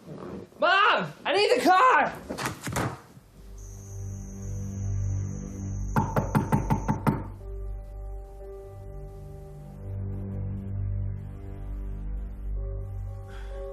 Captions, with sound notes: - Mom, I need the car. (knocks on door) (ominous music)